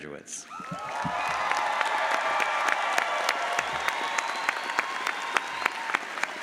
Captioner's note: audience applauds